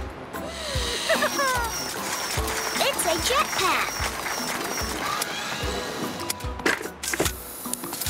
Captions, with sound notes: It's a jet pack! (clapping)